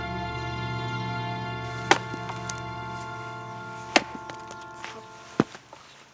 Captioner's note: wood thumping